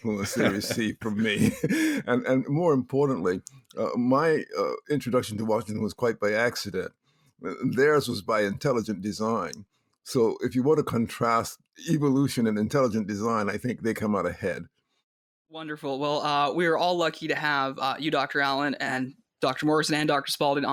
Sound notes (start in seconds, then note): 0.0 laughs